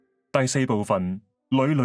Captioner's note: Cantonese